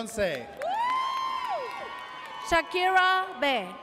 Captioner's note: audience cheers